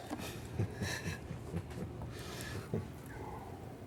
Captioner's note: both chuckle